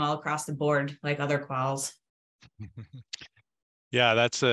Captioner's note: chuckles